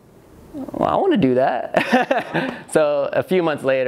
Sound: laughs

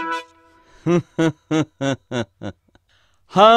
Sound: laughs

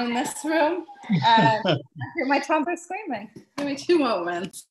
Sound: chuckles

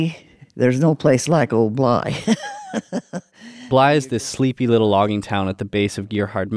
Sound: laughs

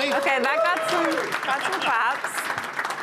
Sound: applause

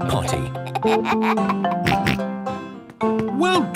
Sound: giggles, snorts

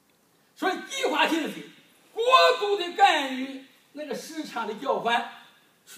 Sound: speaking foreign language

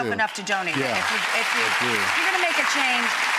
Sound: audience applauds

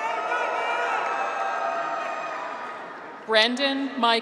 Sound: graduates cheer

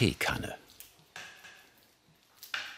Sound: clacking

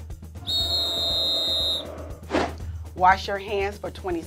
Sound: whistle blowing; crowd booing

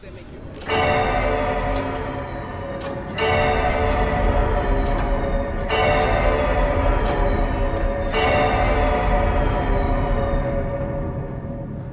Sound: clock chiming

